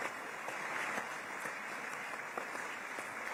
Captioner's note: applause